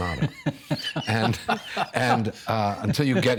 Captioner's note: laughing